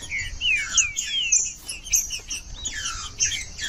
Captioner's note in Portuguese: trinca ferro cantando